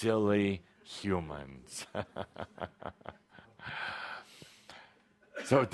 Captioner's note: Kuthumi chuckles again